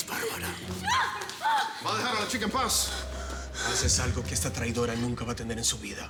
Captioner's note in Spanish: Gritos y exclamaciones